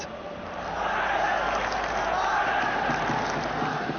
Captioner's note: fans chanting